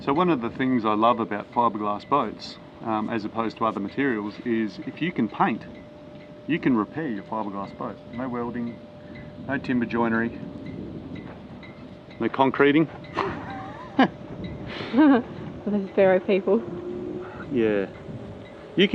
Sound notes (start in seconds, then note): 13.1 laughing